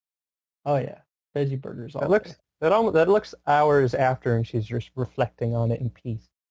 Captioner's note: mumbles